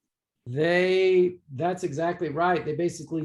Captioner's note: tender Voice